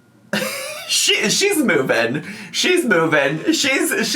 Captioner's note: laughs